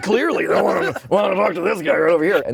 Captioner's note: grumbles